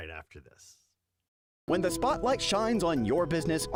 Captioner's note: voiceover